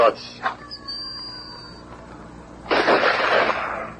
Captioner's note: gunshot